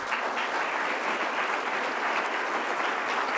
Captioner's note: applause